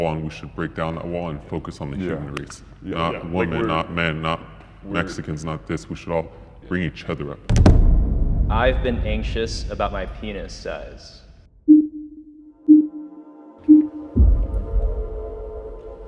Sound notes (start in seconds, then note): 7.5 intense boom; 11.6 countdown beeping